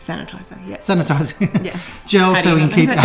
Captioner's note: laughing